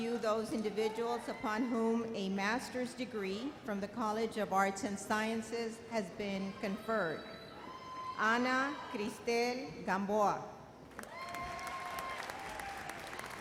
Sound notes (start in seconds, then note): 10.9 audience applauds